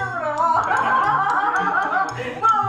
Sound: laughing

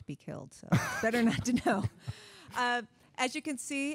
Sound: all laughing

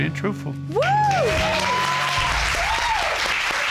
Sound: audience cheering

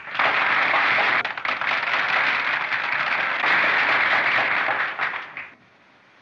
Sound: applause

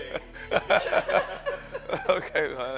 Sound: laughs

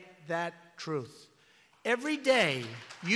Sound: applause

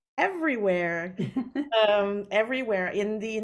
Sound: chuckling

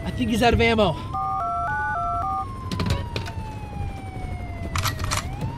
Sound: phone dialing; gun cocks

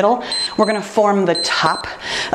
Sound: timer beeps

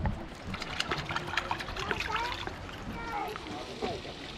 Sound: water splashing

